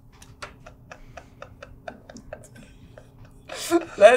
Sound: laughter

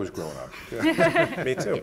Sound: panelists laughing

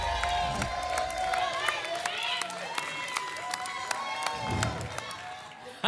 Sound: applause and cheering; whoosh; whoosh

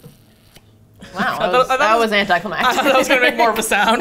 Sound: laughs

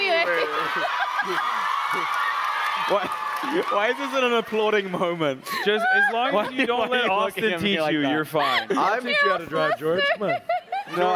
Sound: applause

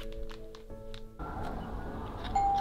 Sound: bell rings

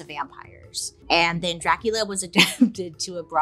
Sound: laughs

